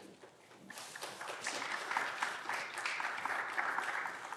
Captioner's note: clapping continues